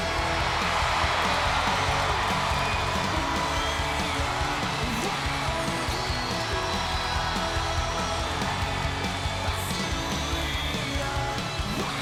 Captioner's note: crowd cheering